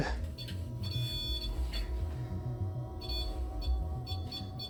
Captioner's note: continuous beeping